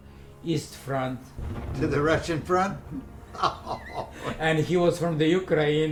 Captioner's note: laughing